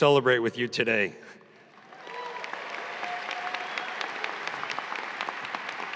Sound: audience applauding

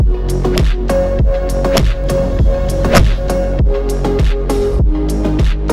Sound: upbeat music; golf club whacking

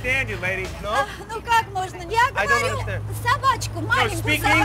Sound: speaking in Russian

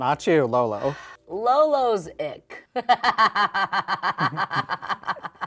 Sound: laughs

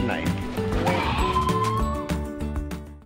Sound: kids scream

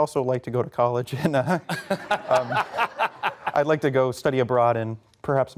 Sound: laughter

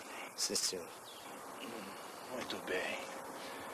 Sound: grunts

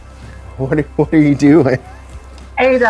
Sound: laugh

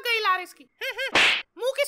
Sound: slap sound

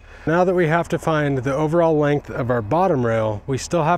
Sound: none

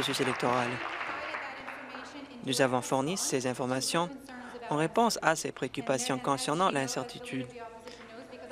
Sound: applause

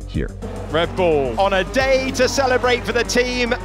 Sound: cars engine roaring

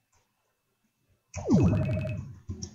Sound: bounce

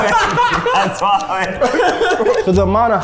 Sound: laughing; laughs

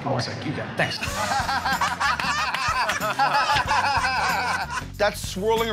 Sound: laughter

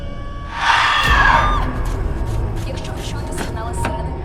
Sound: growl; shouting; radio

